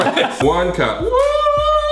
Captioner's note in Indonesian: tertawa